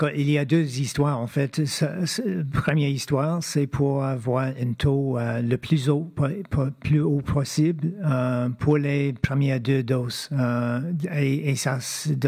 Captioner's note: speaking French